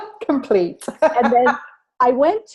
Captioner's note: laughter